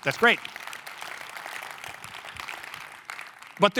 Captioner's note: applause